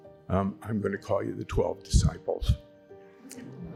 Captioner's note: audience laughs